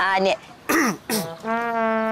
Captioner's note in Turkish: Boğaz temizleme sesi